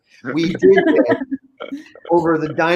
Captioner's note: group laughing